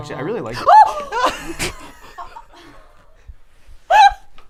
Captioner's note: screams